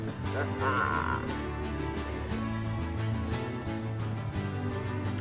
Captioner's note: laughing